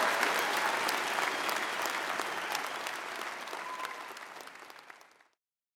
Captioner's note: applause